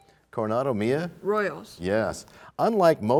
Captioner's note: none